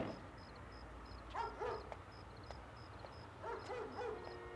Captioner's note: dog barking